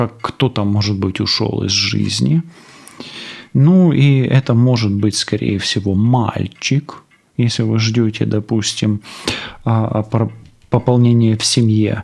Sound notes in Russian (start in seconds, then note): 9.6 фыркает